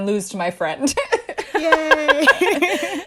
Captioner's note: laughter